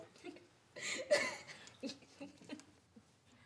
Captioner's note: both laughing